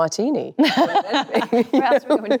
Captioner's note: both laugh cheerfully